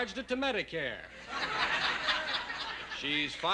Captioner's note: laughter